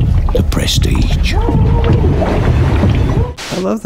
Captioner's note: bangs on glass